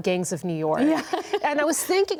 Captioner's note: laughing